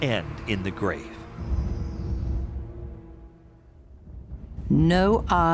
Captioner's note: thunder rumbling